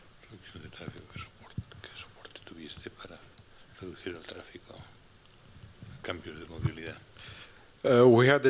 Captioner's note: non-english speech